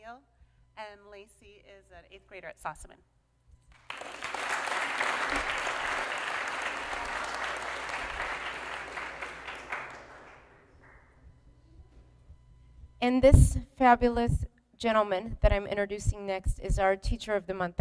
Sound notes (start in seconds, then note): 3.7 applause